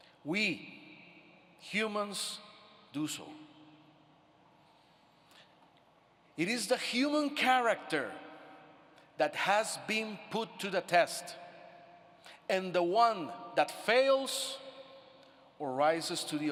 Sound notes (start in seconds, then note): none